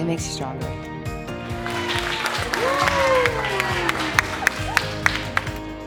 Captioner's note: cheering and applause